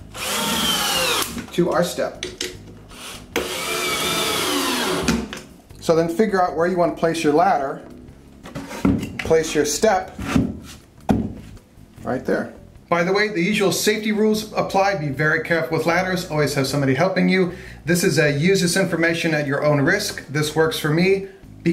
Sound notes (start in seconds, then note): 0.0 sound of drill; 2.9 sound of drill